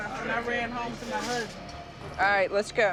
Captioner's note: none